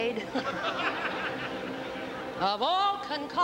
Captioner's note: laughter